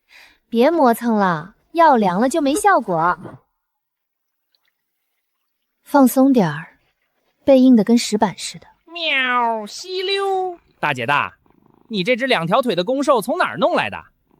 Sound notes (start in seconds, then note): 10.5 slurp